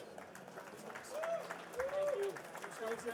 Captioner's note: participants applauding